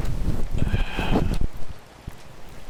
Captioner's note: sigh